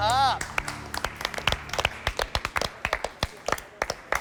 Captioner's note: contestants applaud